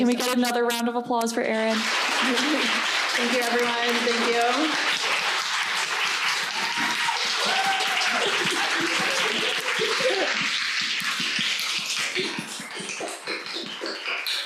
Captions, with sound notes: - But can we get another round of applause for Erin? (audience clapping) - Thank you. Thank you, everyone. Thank you. (audience clapping and cheering)